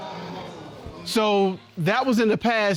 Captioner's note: audience exclaiming